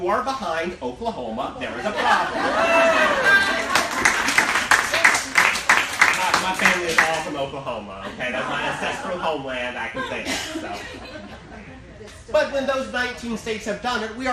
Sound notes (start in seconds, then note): 1.8 laughing; 2.5 cheering and applauding